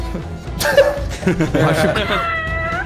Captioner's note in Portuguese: risadas